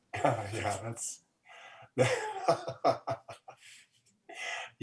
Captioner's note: laughs